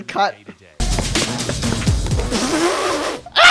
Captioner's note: noisy - alligator